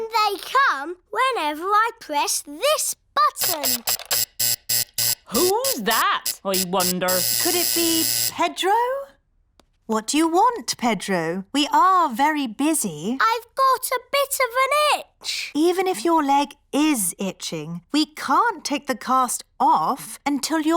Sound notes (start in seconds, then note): 3.4 alarm buzzes